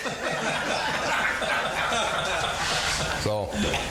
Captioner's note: all laughing